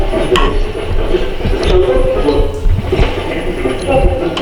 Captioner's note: pulsing static